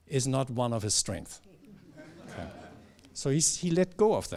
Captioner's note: laughter